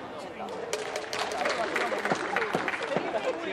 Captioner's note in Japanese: 拍手